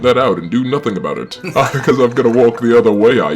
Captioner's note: laughing; laughs